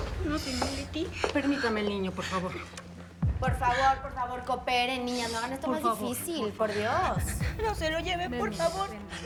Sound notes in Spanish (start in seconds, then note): 3.6 Sollozos de Chole y Leticia